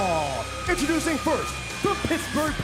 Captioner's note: bell ringing